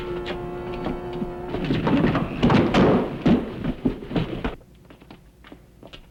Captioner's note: thumping